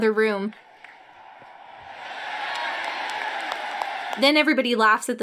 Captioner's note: audience cheering